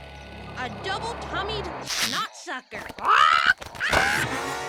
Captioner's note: bird squeaks; underwear squeaks